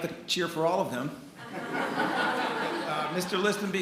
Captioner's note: attendees laughing